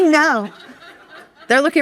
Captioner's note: audience laughing